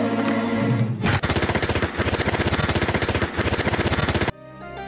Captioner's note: sound of a machine gun